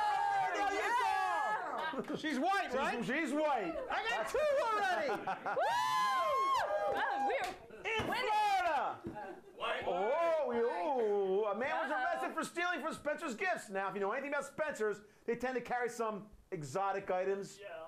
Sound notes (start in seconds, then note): 0.0 audience shouts